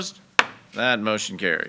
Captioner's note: gavel bangs